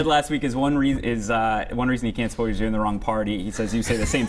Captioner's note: laughter